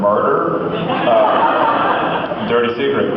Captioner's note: laughs